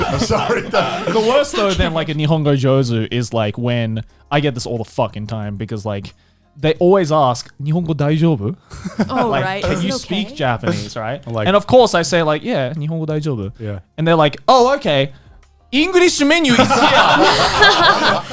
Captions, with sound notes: - Then like in new hunger, Josie is like, when I get this all the time, because like they always ask. (speaks foreign language) - Right. - And of course I say like, yeah, (speaks Japanese) And they're like, "Oh, okay." English menu.